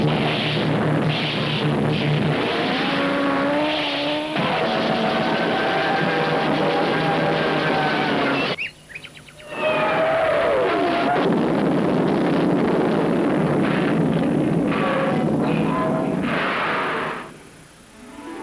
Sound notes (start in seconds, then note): 4.3 ship falling; 8.2 birds chirping; 10.5 ship crashing; 10.6 ship falling